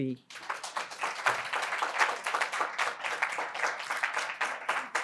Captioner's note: audience applauds